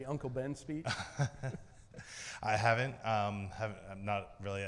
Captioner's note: laughs